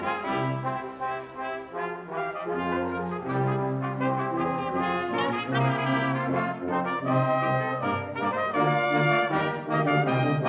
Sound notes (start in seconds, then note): none